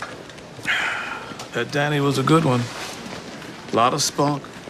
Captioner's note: sighs